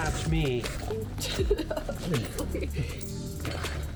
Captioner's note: laughing